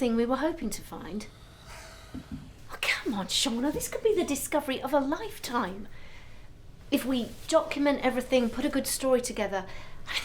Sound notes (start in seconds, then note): none